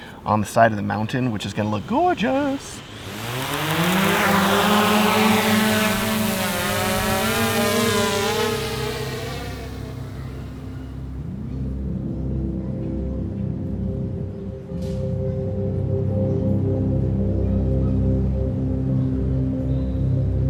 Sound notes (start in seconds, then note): 3.0 drone whirring; 10.6 ambient orchestral music